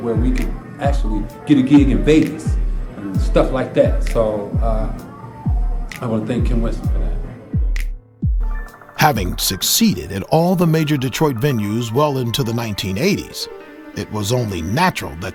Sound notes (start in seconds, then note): 8.9 voiceover